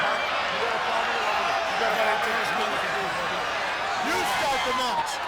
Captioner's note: crowd chattering; wrestlers chattering